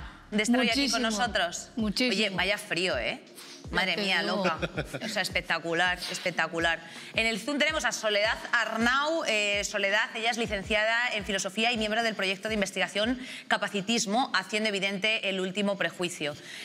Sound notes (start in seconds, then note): 4.3 he laughs